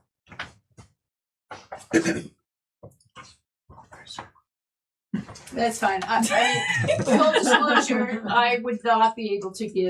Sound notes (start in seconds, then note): 6.3 laughing